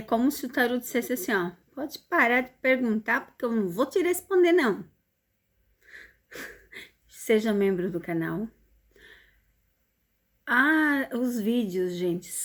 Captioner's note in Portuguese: risadas